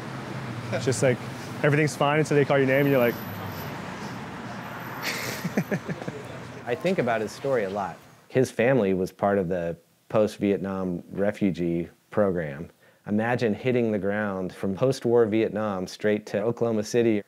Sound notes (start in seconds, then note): 4.9 laughs